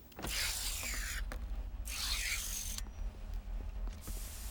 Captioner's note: mechanical buzzing